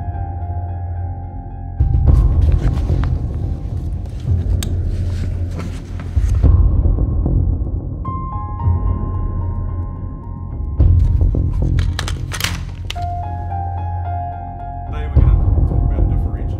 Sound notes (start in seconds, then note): 0.0 sound of zipper being pulled; 2.1 sound of bag opening; 10.9 teacher talking in classroom; 11.0 sound of snapping together of gun parts